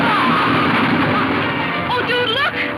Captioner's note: horses galloping